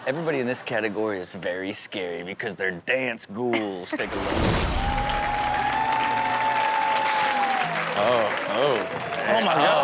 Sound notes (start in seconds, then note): 4.6 audience cheering and clapping